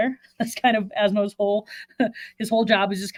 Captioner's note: chuckles